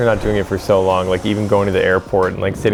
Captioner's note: airplane whistling